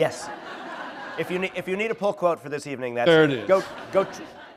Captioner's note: laughter